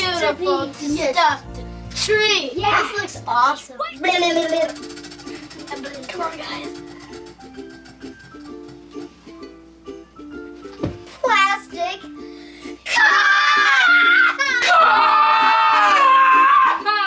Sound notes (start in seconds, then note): 3.8 wheel spinning